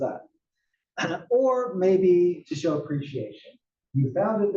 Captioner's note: laugh